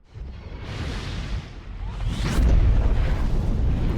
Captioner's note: logo whooshing